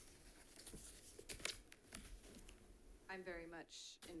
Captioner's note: paper rustling